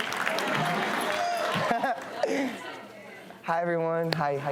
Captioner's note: laughs